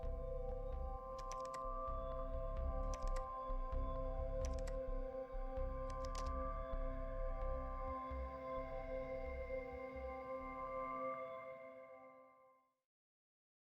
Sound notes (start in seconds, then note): 1.1 keyboard typing